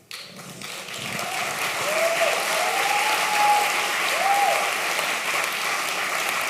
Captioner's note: applause